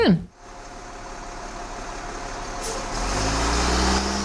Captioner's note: engine roaring